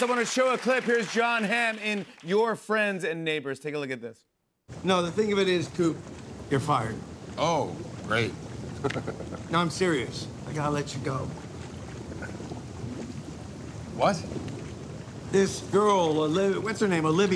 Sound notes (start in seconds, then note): 8.7 chuckles